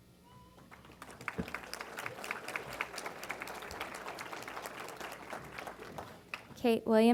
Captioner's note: applause